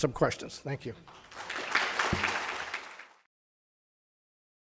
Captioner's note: audience applauds